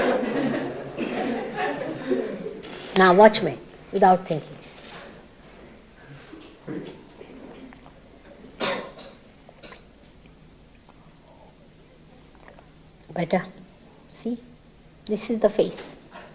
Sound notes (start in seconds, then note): 2.2 laughter